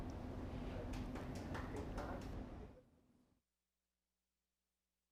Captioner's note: audience clapping